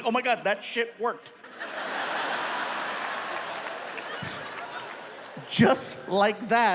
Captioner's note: audience laughs; audience applauding